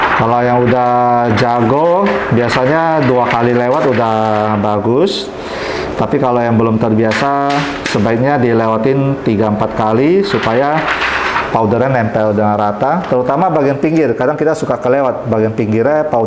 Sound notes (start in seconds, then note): 5.3 inhale; 7.2 PET film sound; 9.6 PET film sound